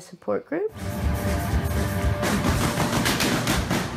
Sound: gunfire

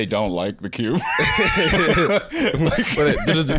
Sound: both laughing

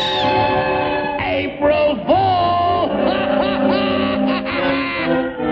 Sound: laughs

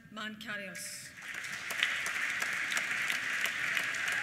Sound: applause; cheers

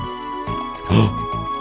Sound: gasp

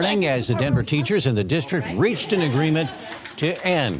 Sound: applause

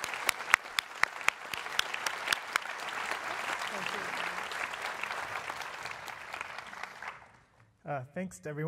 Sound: applause

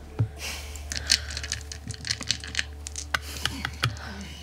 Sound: dice rattling

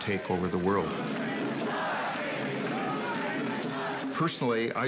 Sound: protesters chanting

